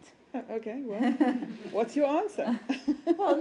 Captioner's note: laughter